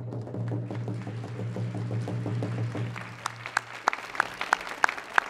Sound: drum rolling; audience applauding

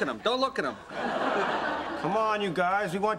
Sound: audience laughter

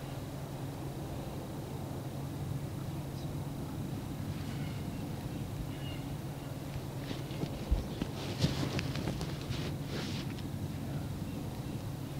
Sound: footsteps heard, birds chirping

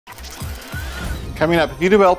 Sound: machine whirring

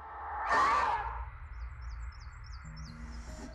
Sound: screaming

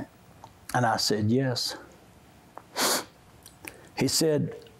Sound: sniffs

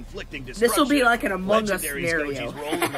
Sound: laughs

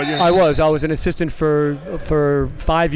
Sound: buzzer dings

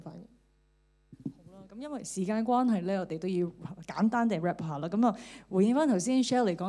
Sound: Cantonese

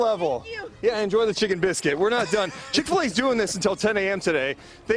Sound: laughter

